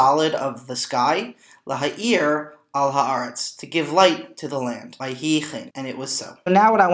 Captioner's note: Hebrew; Hebrew